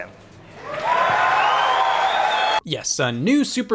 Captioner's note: crowd applauds